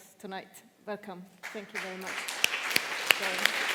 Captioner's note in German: Applaus